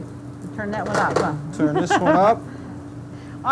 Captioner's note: laughs